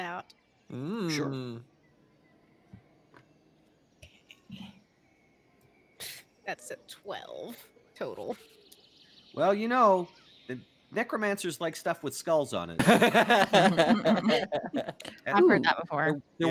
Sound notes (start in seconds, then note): 12.8 Cornette laughs